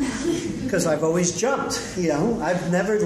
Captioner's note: laughter